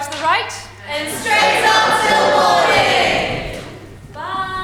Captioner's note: audience: “and straight on ‘til morning!”